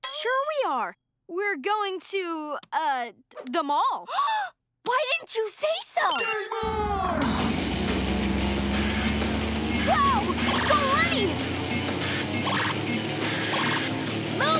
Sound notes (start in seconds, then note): 4.2 gasps; 8.0 engine revving; 11.8 beeping